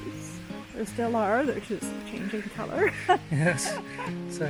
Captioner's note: laughs